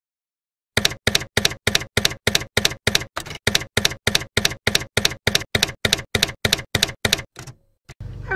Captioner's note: typewriter keys clacking